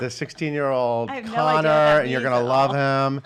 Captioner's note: laughing